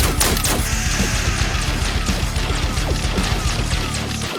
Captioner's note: scorpion hisses